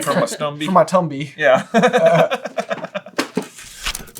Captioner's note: laughter